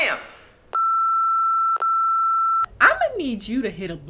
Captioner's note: beep